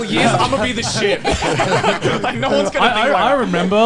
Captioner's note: all laughing